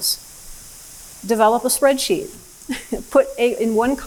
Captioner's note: laughs